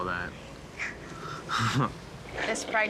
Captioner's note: giggles